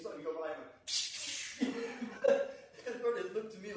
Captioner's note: slash sounds; laughs